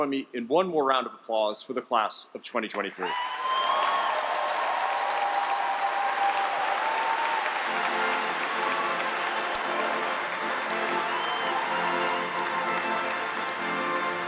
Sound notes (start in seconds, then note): 3.2 cheers, applause